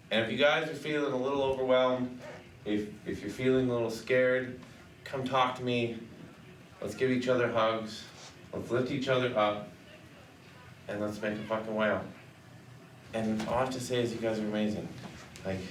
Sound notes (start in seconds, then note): none